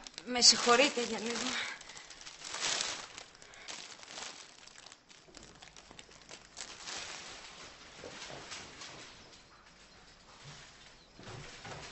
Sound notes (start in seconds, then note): none